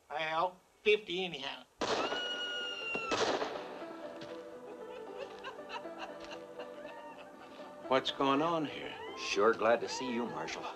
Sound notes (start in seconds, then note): 2.0 woman screaming; 2.8 gunfire; 3.2 jaunty piano music playing; 4.6 woman laughing